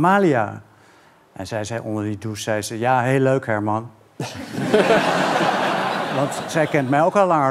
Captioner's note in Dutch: gelach